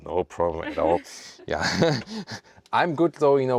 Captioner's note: laughs